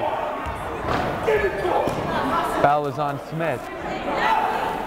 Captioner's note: yelling